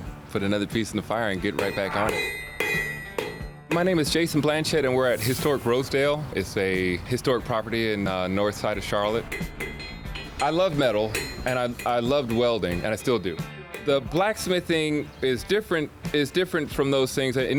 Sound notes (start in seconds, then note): 5.0 air whooshes; 9.1 metal tapping